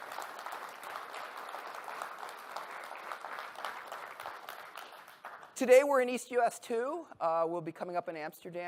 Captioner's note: applause